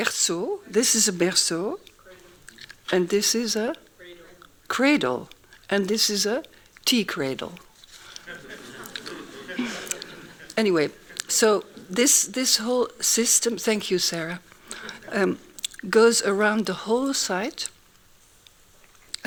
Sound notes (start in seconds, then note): 8.0 laughing